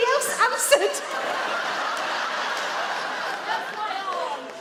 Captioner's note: audience laugh